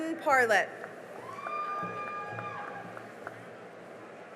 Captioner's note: cheering and applause